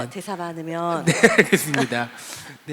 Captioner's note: laugh